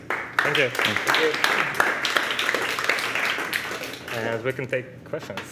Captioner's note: crowd applause